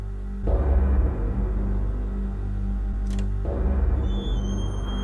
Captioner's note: ambience with gongs; door squeaking